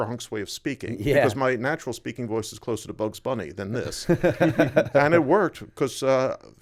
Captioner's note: laughter